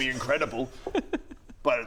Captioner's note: sniggering